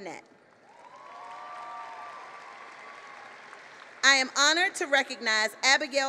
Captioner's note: applause